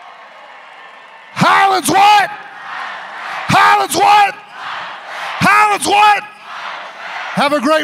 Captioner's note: cheering